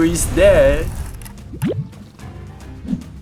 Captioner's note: sfx: blob transforms